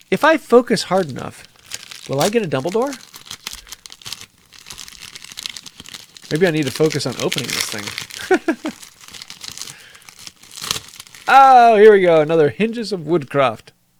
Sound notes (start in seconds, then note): 8.1 chuckles